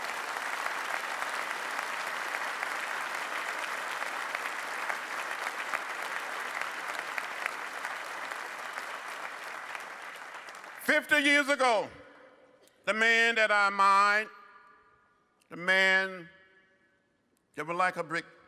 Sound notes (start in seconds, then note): 2.7 applause